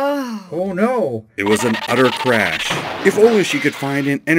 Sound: car skids and crashes

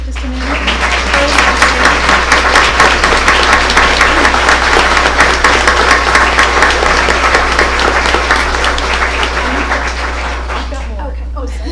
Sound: applause

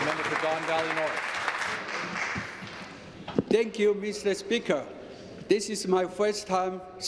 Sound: some applause

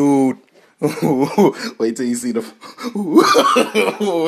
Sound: laughing

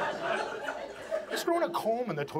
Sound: audience laughs

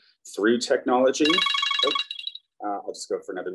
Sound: phone rings

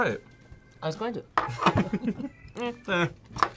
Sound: both laugh

